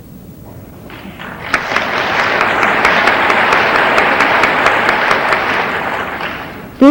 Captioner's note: audience applauding